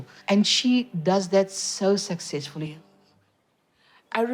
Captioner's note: none